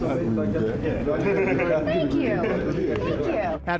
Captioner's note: all laugh